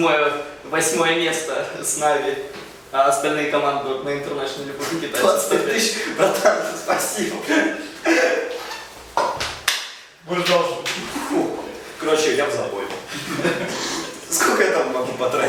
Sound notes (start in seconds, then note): 10.4 laughs